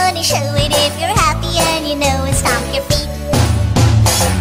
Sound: stomp stomp

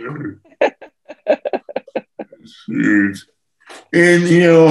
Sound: laughs

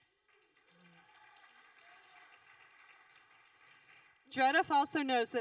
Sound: audience applauding

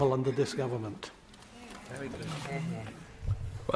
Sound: chatter from crowd

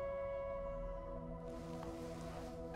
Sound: none

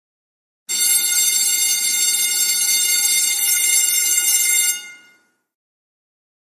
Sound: school bell rings

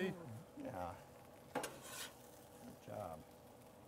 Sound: metal clanking

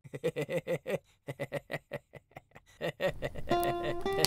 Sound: giggling

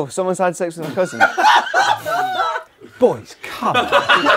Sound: people laughing

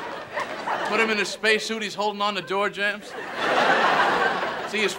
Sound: audience laughter

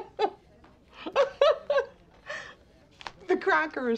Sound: starts laughing; continues laughing

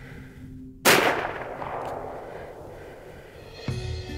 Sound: gunshot exploding; relaxing instrumental music

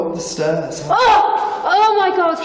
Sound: shouts

